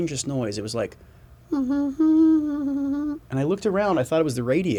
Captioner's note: humming